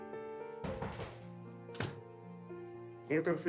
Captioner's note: knock on the door